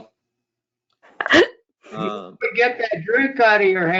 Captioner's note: laughter